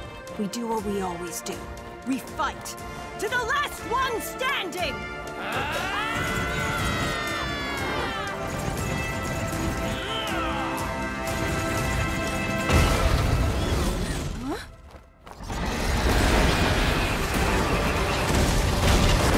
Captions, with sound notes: We do what we always do. We fight to the last one standing! [all yelling] [all grunting] Huh?